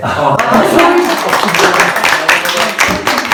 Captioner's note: applause